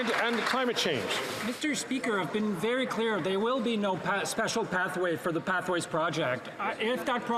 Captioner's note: some Applause